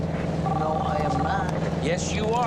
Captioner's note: cell phone ringing